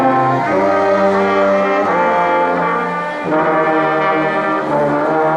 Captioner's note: crowd cheering